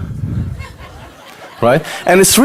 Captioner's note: audience laughter